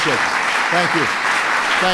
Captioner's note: applause